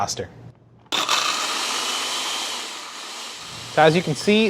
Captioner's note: blender whirring